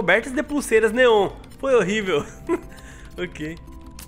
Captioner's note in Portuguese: risos